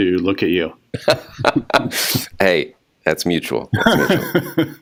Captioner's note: laughs; laughs